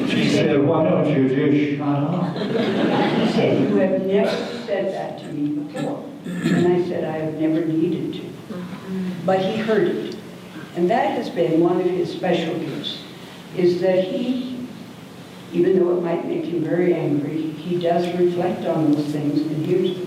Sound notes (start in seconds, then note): 2.1 audience laughter